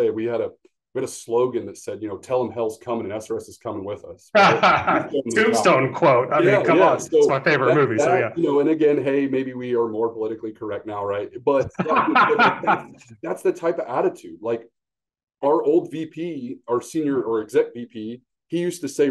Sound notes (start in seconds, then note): 4.3 laughs; 11.5 laughs